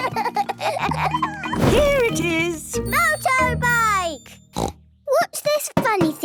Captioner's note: snort